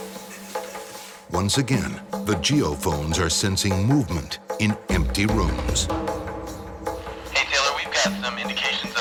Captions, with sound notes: - [Voiceover] Once again, the geophones are sensing movement in empty rooms. - Hey Taylor, we've got some indications of